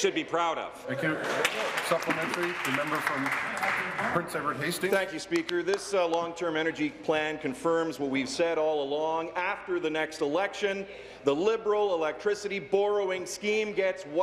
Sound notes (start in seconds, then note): 5.0 applause